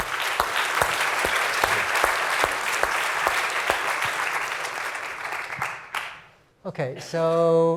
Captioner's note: applause